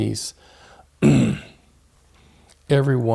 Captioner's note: clears throat